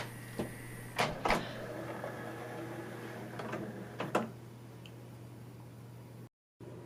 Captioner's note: whirring with clunks as the carousel changes direction; creaky tray motor creakily motors tray and finishes with a clunk